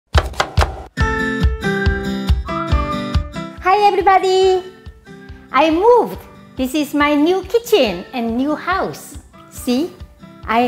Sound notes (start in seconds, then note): 0.1 chopping; 1.1 cheerful music